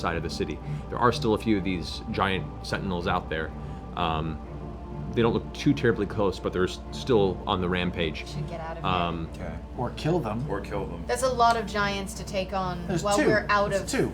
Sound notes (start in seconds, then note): none